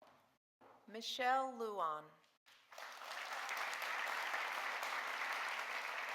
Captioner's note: audience applauding